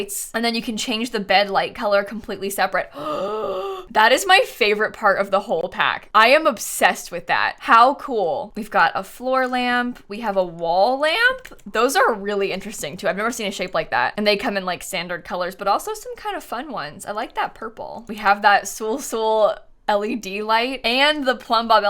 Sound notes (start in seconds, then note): 2.9 gasps